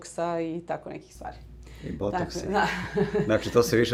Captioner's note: laughs